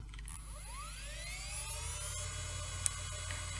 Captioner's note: vintage Computer Sounds